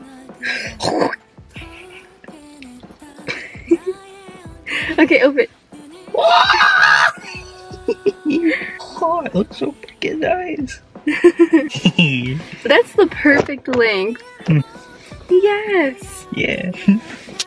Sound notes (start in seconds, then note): 0.8 fake spit sounds; 6.1 happy yell